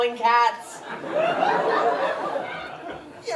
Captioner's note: laughter